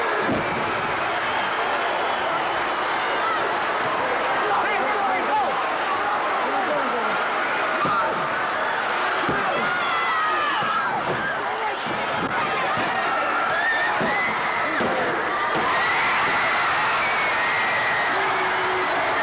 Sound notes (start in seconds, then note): 4.5 wrestler shouting; 11.3 audience chattering; 15.9 audience cheering